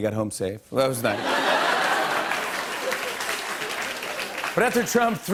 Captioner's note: laughter and applause